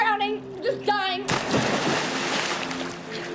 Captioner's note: loud splash